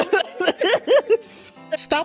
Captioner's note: laughing